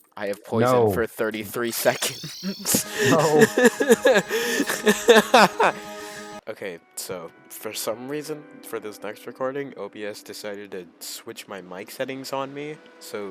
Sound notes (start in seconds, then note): 6.2 laugh of pure insanity